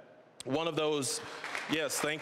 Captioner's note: applause